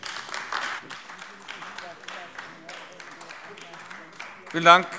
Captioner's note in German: Beifall AfD